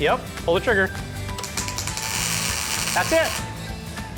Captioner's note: sparking